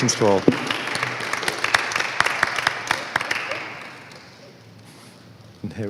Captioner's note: applause